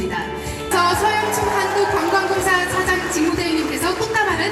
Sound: applause

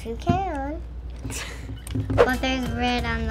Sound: laughs

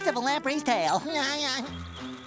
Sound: laughing

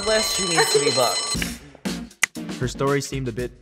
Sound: bell rings

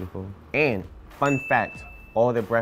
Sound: bell dings

